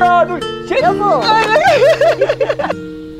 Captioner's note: both laughing